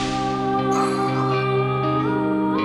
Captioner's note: deep exhale